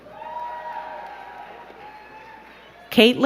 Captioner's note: crowd cheering and clapping